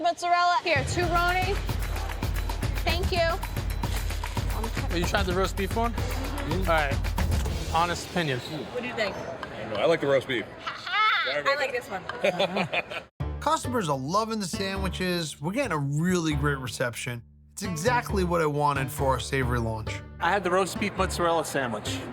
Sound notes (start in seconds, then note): 12.1 laughing